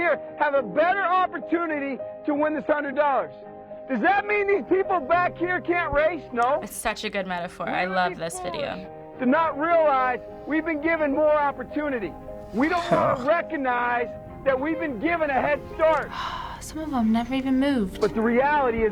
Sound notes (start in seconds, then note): 15.3 sighs